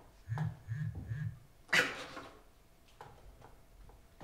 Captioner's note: phone buzzes